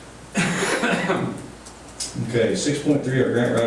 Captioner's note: coughing